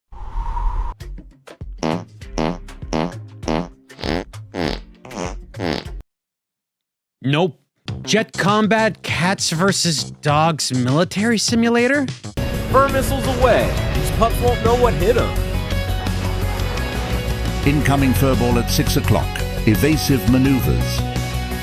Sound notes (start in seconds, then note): 0.1 wind blows; 1.8 farting; 15.5 rock music